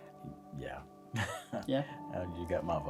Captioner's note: laughs